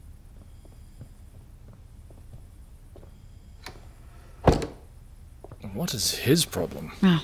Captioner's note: door closing softly